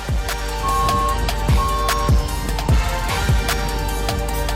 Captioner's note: equipment beeping